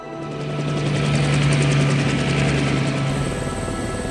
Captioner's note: helicopter whizzing